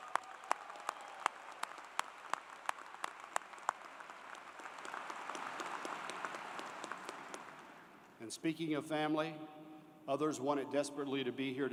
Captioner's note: applause